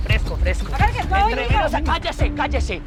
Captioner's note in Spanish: Hablan al unísono